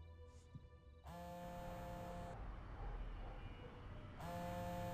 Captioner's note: phone vibrating